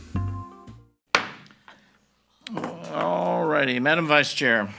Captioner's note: gavel pounds